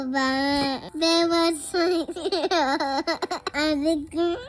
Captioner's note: giggles